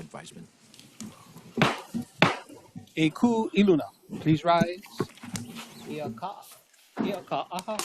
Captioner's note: gavel bangs twice